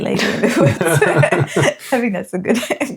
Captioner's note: laughing